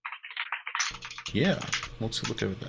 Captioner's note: keyboard keys clanking